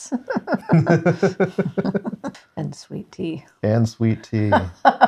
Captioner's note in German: lacht; lacht